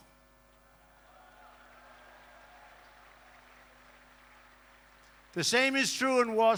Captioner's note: applause